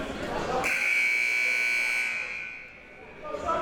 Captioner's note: buzzer